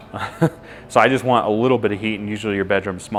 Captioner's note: laughs